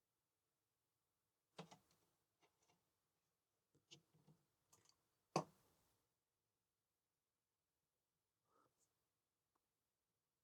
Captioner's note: silence